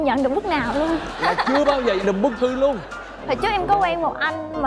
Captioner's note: laughing